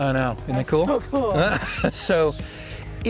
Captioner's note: laughing